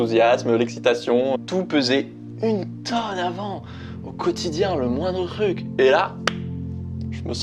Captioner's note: clap